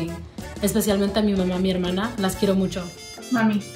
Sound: speaks in foreign language

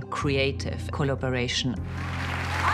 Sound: applause

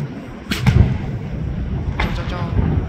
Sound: boom

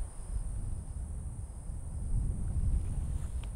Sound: wind rustling

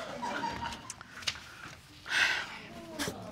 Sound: audience laughing

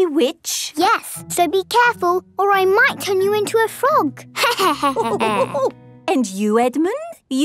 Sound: laughter

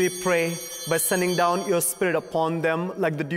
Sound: bell ringing

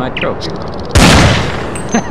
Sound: Desert Eagle Shot!

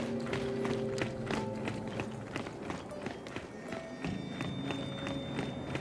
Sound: footsteps

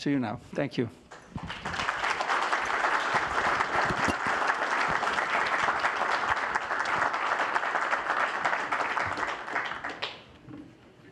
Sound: applause

